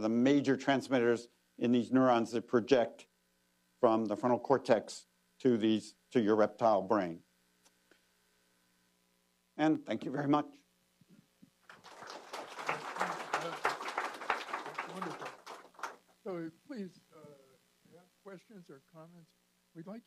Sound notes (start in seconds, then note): 11.6 applause